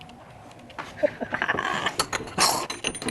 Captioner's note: gasping